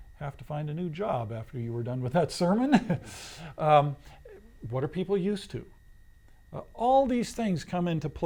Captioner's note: laughs